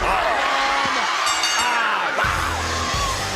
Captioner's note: bell rings